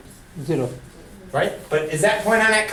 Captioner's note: voiceover